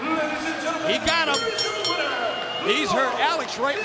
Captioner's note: bell rings